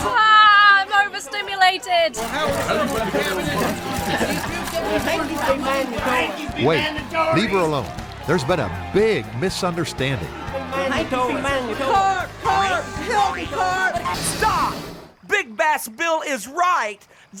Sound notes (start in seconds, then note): 2.2 camera shutters clicking; 10.7 crowd continues to chatter